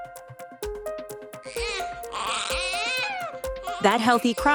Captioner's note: baby crying